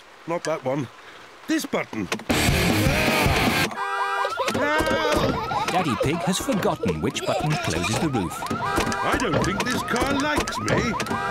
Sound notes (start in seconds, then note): 2.3 heavy rock music playing; 3.5 alarm blaring